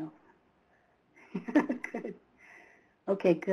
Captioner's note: laughs